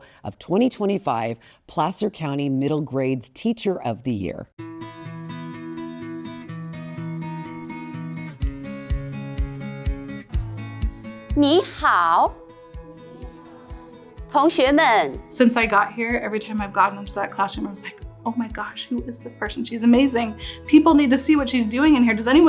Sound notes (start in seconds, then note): 4.7 bright music; 11.3 speaking in Mandarin